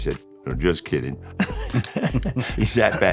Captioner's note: both chuckling